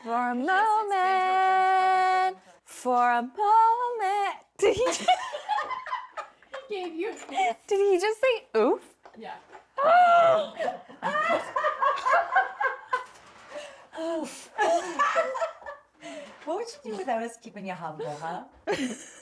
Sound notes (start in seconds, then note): 4.6 both laughing; 9.9 all laughing